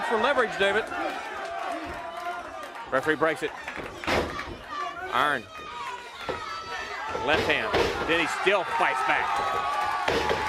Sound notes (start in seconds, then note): 1.5 crowd chatter